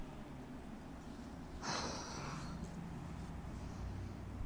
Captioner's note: sigh